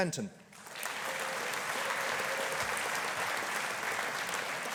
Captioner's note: audience applauding